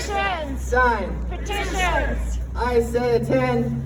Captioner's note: crowd